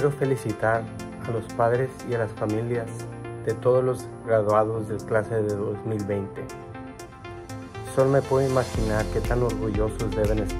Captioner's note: Spanish